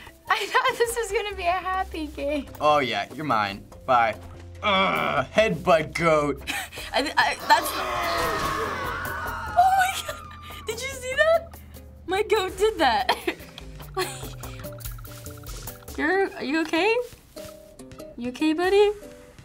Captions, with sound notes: I thought this was gonna be a happy game. Oh yeah, you're mine. Bye! Head butt goat! (people scream) Oh my god! Did you see that? My goat did that. Are you okay? You okay, buddy?